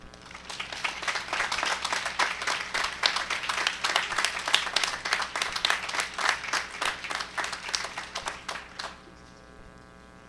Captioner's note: applause